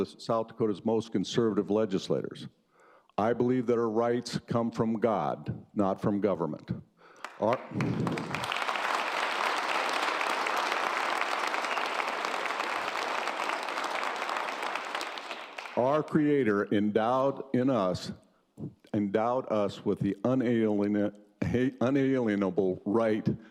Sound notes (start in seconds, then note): 10.4 applause